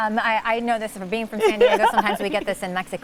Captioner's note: laughs